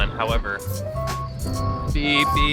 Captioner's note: vehicle beeping